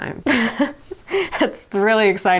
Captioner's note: laughing